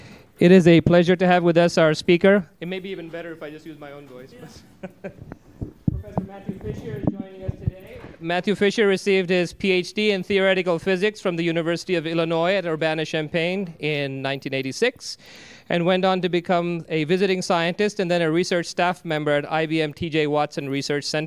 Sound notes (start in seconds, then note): 4.5 laughter